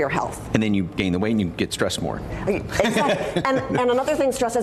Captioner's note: laughs